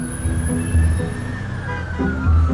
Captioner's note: siren wailing; calm music